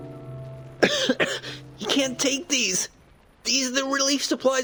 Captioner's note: cough